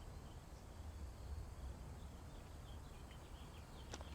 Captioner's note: birds chirping